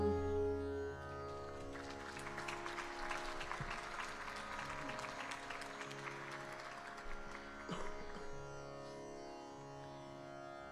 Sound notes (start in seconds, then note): 1.2 audience applauding